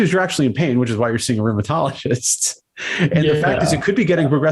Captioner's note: laughs